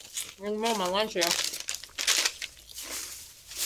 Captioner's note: crunching